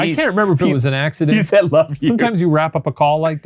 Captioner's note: chuckles